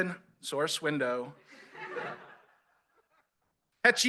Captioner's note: laughter